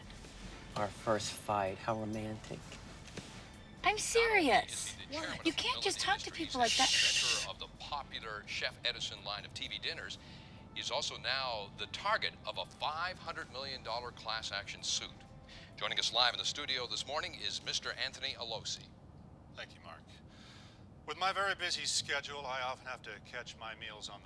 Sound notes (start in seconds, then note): 6.1 man talking on tv